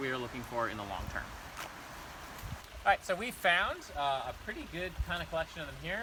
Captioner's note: running water in background